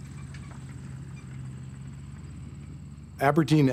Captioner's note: rumbling, mechanic squeaking